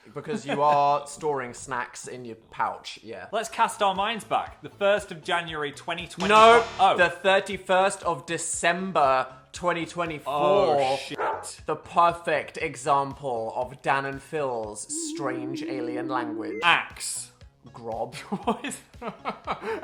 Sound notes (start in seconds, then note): 11.1 bark